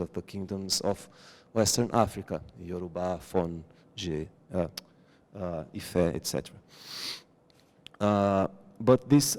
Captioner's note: non-english